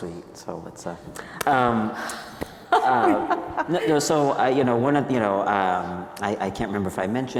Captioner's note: laughing